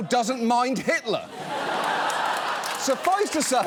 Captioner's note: studio audience laughs, applauds